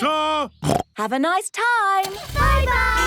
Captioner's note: snorts